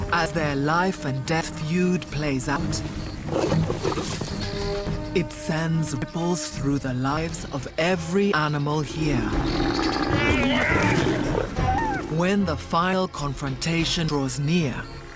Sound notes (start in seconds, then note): 9.4 snarling